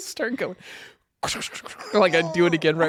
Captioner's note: laughs; scratching